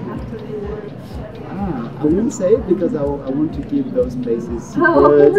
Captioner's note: laugh